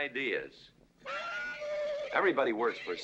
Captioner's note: horse neighing